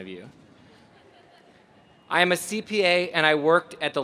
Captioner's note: laugh